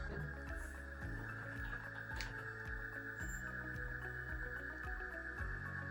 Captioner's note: machine screeching